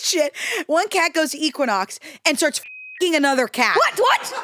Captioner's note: beep